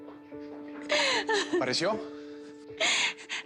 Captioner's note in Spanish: Sollozos